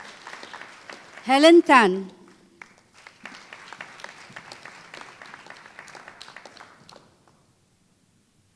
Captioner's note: applause